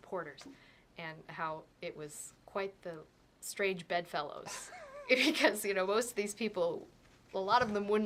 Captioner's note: laugh